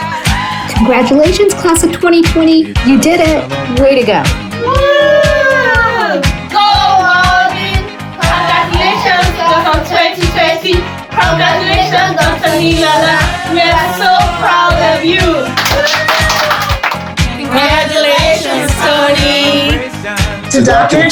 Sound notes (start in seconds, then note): 0.3 laughter; 4.6 cheering; 15.5 applause